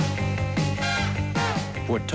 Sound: discordant horn

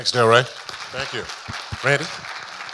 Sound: audience applauding

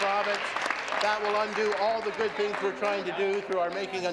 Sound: applause

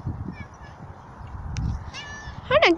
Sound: lucky meows

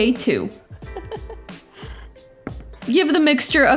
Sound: giggles

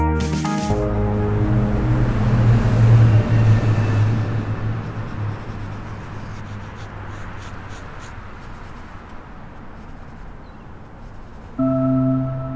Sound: highway traffic

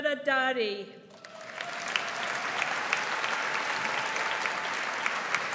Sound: audience applauds

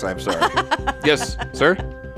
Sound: woman laughing

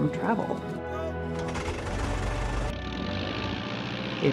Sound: propellers whirring

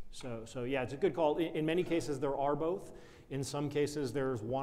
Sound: none

